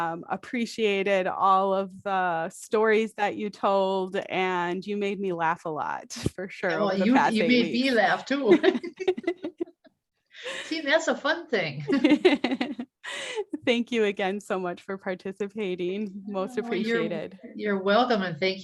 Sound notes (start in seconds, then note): 11.8 laughter